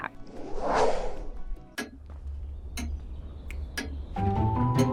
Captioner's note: clock ticking